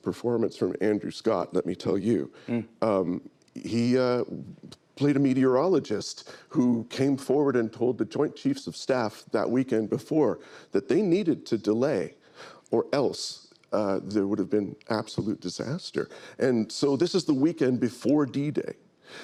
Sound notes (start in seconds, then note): none